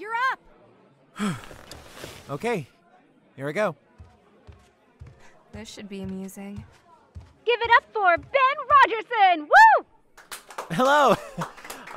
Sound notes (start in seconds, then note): 1.2 nervous exhale; 10.1 claps